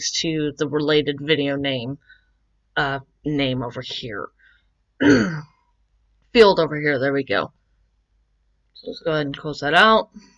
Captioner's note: ahem